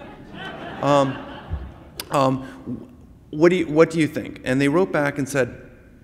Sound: laughter

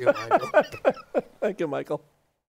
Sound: laughter

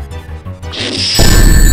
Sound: intense whoosh; slamming, rings scattering

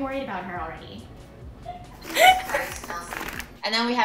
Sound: laughing; paper rustling

